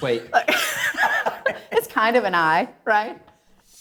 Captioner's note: laughing